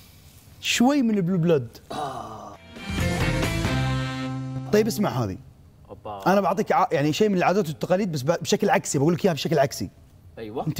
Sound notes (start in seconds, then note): 1.8 sighs in satisfaction